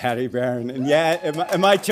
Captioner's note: audience applauds